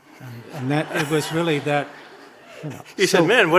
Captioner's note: audience laughing